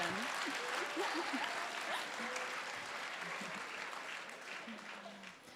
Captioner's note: applause